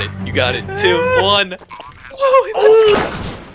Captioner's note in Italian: Terrorista alla radio